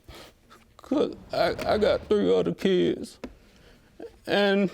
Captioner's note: voice breaking